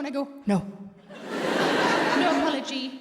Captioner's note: audience laughs